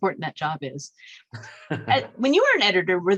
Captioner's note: laughs